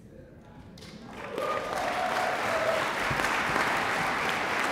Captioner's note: audience applauds